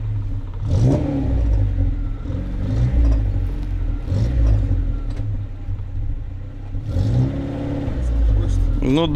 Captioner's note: wroom-wroom-wroooommmmm